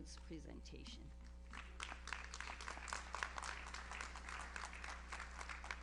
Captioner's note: audience applauds